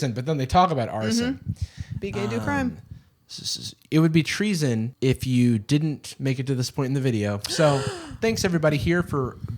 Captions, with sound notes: but then they talk about arson. - Mhm. Be gay do crime. - Um. It would be treason if you didn't make it to this point in the video, so - [gasps] - thanks everybody here for